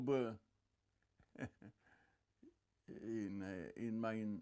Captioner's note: laughing